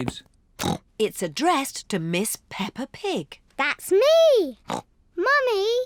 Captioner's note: snorts